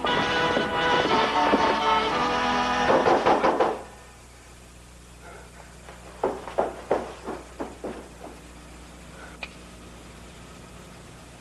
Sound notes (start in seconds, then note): 2.8 pounding on door